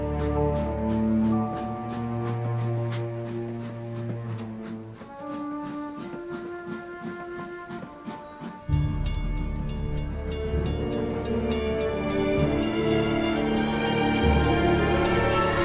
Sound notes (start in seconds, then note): 8.8 train crossing bell rings; 12.8 dramatic music